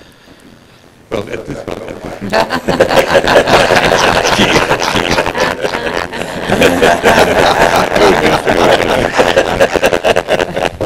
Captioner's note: laughter